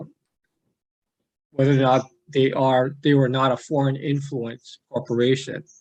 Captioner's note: none